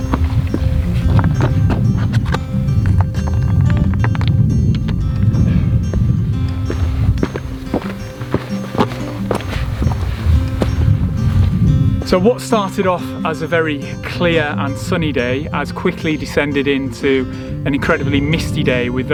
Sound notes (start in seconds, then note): 0.0 stones knocking